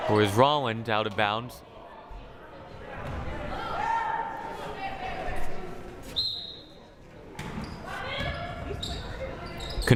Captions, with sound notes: Or it was Rolland out of bounds. (crowd murmuring) (whistle blaring)